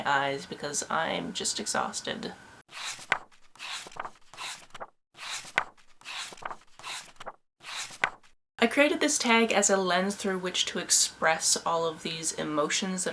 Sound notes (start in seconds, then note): 2.7 pages turning